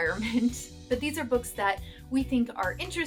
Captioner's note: laughter